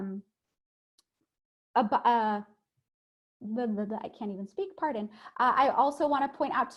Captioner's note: stutters